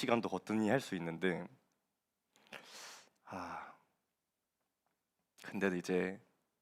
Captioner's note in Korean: 한숨